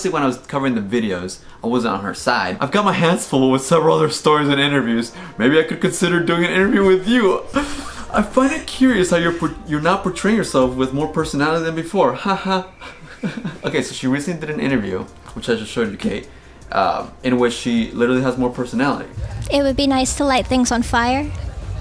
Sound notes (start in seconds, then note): 11.4 cricket sounds; 12.1 laughs